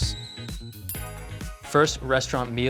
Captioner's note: bell ringing